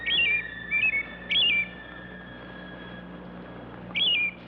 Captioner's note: bird singing